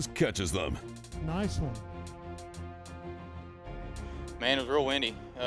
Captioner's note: man Over Loudspeaker